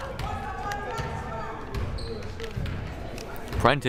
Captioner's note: crowd murmuring